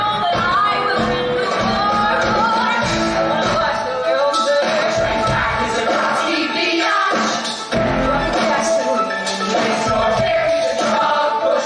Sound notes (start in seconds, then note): none